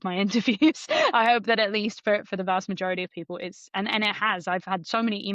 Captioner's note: laughs